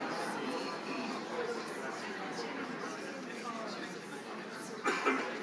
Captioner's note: audience chattering indistinctly